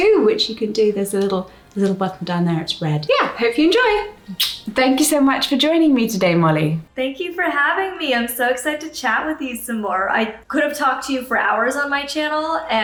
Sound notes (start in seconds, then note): 4.2 lips smacking